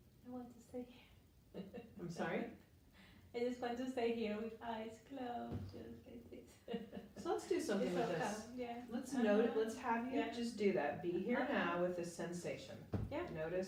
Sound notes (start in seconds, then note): 1.6 chuckles; 6.4 chuckles